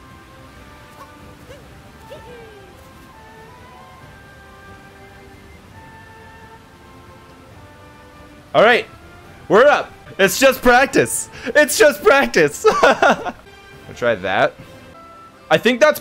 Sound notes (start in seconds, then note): 12.5 laughs